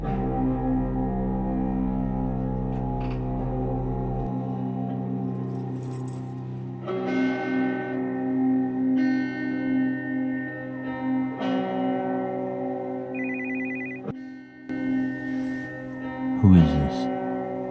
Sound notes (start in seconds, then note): 13.1 phone rings